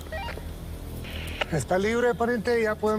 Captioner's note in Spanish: Pitido